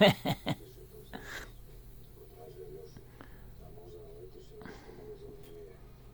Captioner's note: laughter